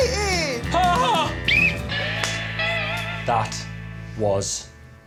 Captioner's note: Alex blows whistle